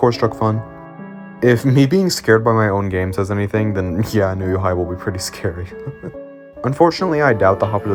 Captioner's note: laughs